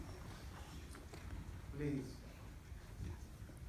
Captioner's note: clapping in the audience